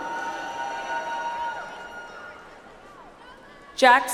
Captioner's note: audience applauds